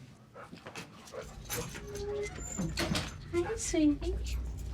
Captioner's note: dog panting